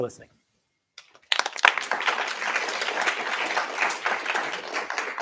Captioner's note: applause